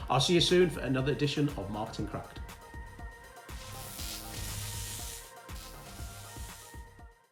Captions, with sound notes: I'll see you soon for another edition of Marketing Cracked. (Electric Buzz)